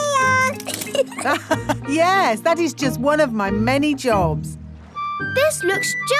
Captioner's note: laughs